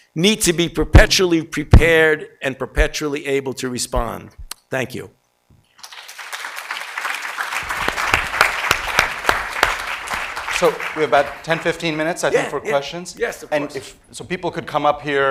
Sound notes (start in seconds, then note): 5.8 audience applauds